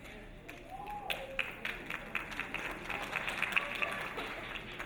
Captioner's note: audience applauding